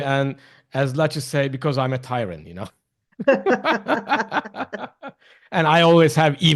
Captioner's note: laughs